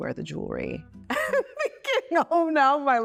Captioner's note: Chloe laughs